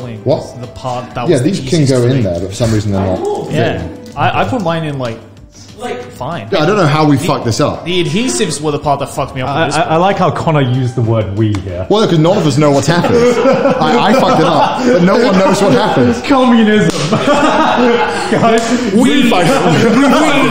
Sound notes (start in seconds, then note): 16.7 laughs